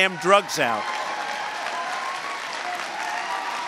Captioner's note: applause